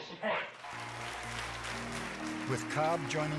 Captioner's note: group applauding; quiet music